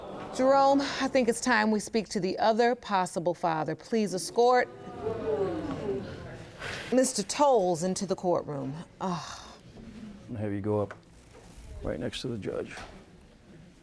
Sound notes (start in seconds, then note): 0.0 audience groans; 9.0 sighs